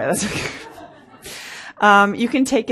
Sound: laughs; laughter

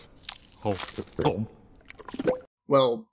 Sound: chomps, swallows; pops

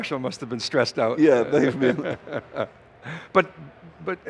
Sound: laughs

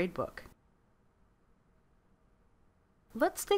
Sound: silence

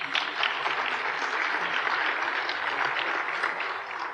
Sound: applause

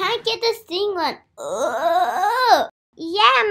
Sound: grunts

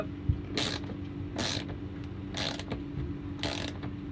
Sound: ratcheting

